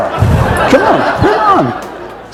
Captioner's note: laughter